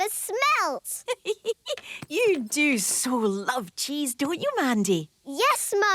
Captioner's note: giggling